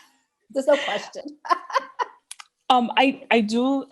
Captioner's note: laughs